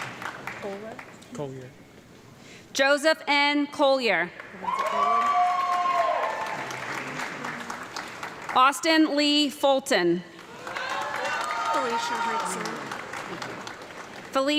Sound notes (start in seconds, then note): 0.0 audience clapping and loud cheering; 4.4 audience clapping and cheering; 10.3 audience clapping and cheering